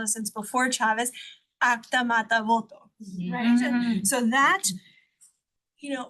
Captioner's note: speaks Spanish